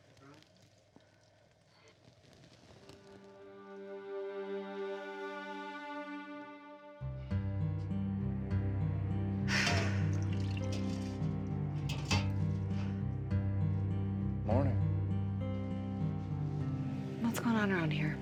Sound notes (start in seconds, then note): 3.5 tense music; 9.4 sighing deeply